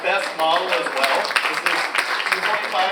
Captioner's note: audience applauds